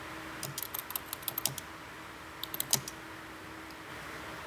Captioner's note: keyboard clacking